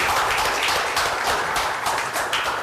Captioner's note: applause